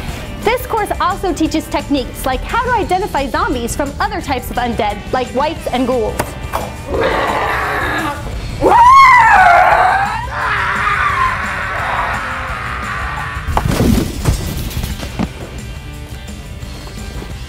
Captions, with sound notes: This course also teaches techniques, like how to identify zombies from other types of undead like whites and ghouls. *growl* *scream*